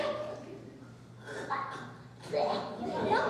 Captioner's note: coughing and spitting